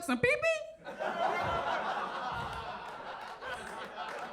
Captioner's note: audience laughs